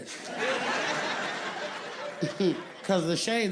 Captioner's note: audience laughing